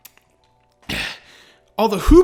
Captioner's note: satisfied sigh